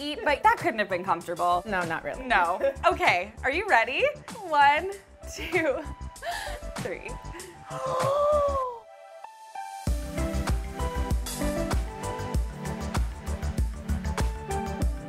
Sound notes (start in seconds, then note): 7.3 gasps; 9.7 chill music